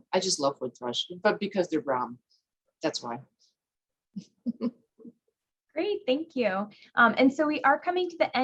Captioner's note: laughs